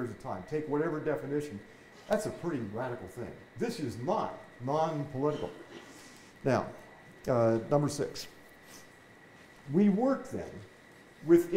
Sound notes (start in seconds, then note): none